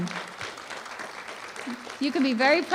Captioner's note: applause